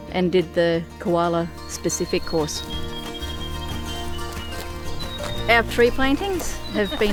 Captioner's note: bright music continues; feet crunching